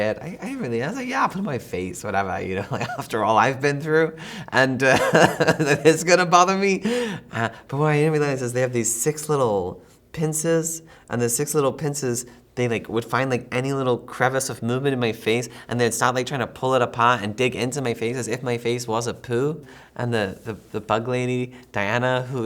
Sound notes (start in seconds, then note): 4.2 laughs